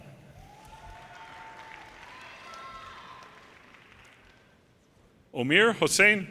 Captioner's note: audience cheers and applause